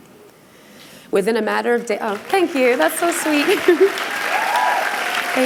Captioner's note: applause